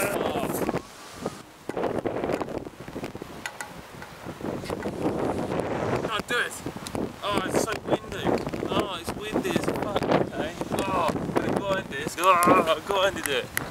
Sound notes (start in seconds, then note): 1.6 painful noise of wind